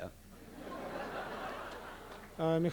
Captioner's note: laughter; non-english speech